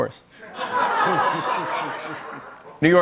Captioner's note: laughter